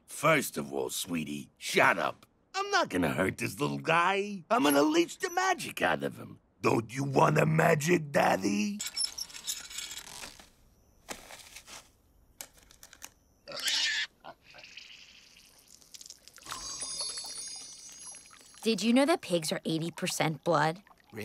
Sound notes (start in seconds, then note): 8.6 gears squeak; 13.4 pig squeals; 15.6 blood sloshes